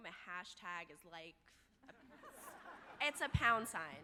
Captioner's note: audience laughing